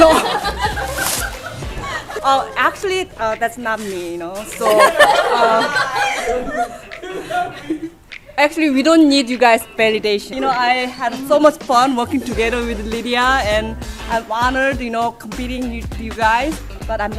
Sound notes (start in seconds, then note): 0.0 laughs; 4.6 everybody laughs